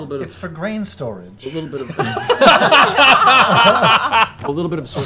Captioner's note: laughter